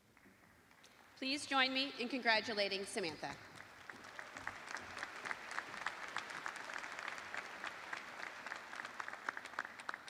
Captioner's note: applause